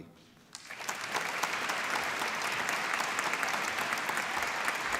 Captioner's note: applause